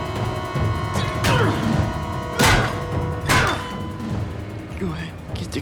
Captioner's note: ghoul scoffs; Paul grunts; head thuds